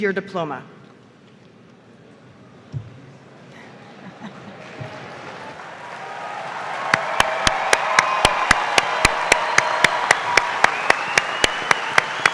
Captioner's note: applause